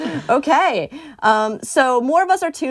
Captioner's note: laughter